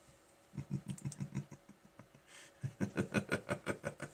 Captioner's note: laughing